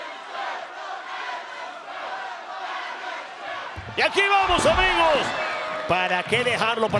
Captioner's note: applause